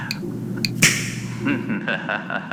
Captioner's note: hollow snap fx